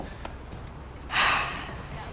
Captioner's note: sighs